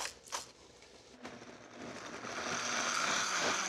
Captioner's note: blender whirs